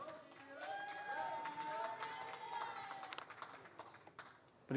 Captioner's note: audience cheers